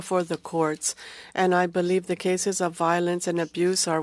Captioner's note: speaking French